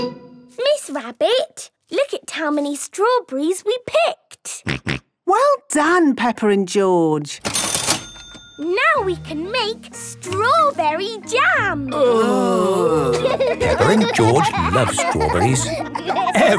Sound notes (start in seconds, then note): 7.4 till rings; 11.9 groaning; 12.2 laughing